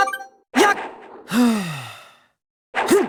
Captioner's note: catching breath